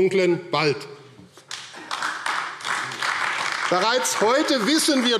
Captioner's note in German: Beifall AfD